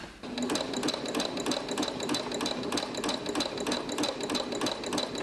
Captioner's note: sewing on sewing machine